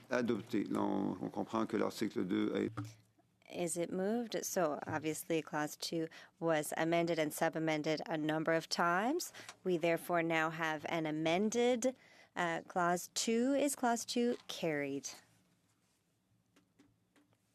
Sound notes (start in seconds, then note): 6.1 speaking French